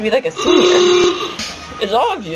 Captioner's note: SFX: Awooga!